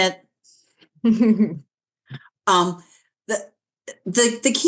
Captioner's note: chuckling